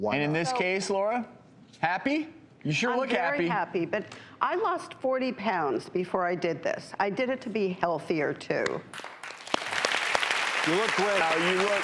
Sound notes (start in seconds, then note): 8.9 audience clapping